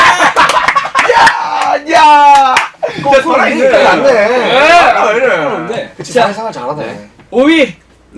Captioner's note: applause